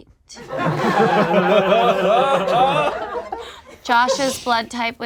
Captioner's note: group laughs